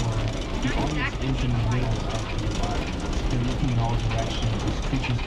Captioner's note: people talk randomly